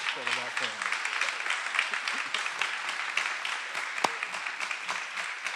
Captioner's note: everyone applauding